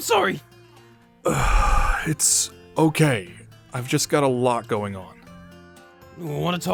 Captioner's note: sigh